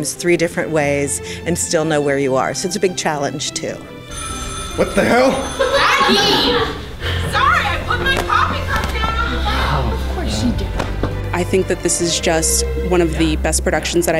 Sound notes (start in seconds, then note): 4.0 phone rings